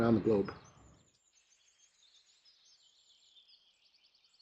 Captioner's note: birds chirping